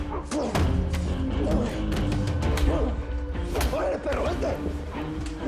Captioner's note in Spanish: Golpes